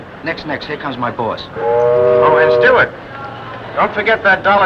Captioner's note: ship horn